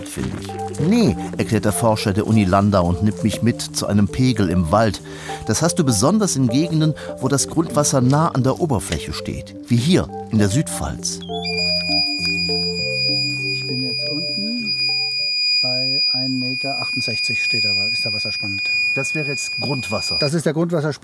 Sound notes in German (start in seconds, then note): 14.1 Piepen